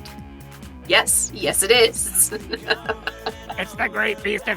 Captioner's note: chuckles